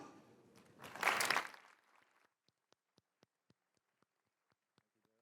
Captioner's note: applause